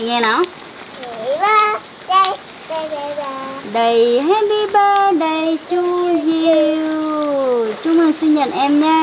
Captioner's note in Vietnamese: Vỗ tay